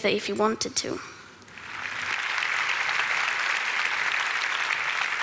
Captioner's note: Applause; 掌聲